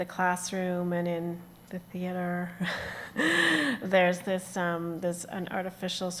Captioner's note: chuckles